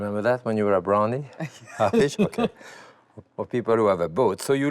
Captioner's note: laughs